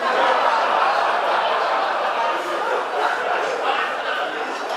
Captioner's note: audience laughing